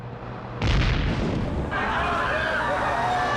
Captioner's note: explosion